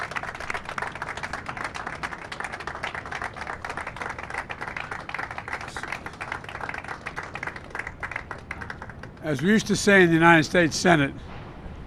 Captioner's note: cheers and applause